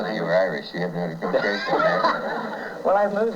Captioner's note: laughter